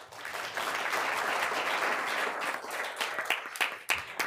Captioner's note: room applauding